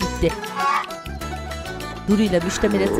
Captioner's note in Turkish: Tavuk sesi; Horlama sesi